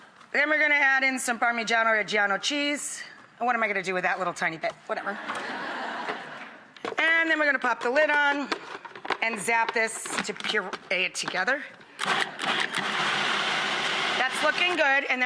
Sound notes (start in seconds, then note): 5.1 audience chuckles; 12.0 food processor starts